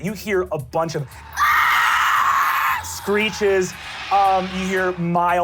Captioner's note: screeching